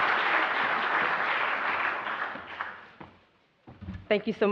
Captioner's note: applause